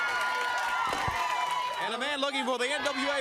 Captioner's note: crowd cheering